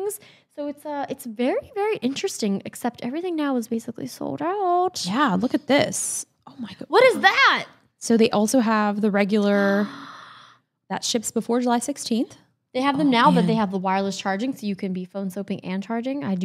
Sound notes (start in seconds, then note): 9.7 gasps